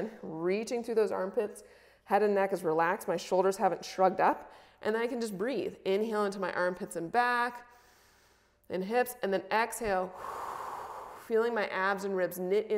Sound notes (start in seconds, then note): 10.1 exhales; 10.1 inhales